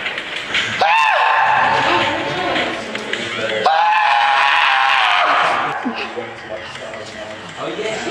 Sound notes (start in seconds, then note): 1.0 customer screams